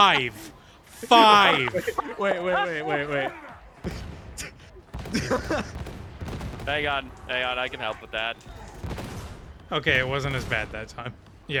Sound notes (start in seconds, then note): 0.8 laughter